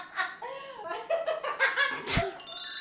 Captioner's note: continues laughing in the background; more laughing